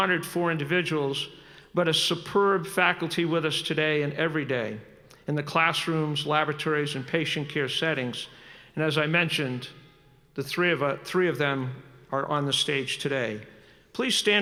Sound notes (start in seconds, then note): none